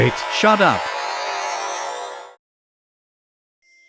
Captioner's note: teleporter noise